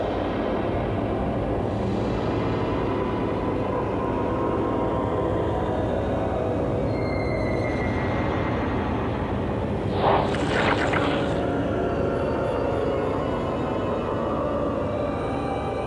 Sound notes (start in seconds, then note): 9.9 flesh squelching